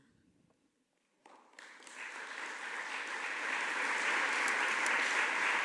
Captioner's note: audience applauding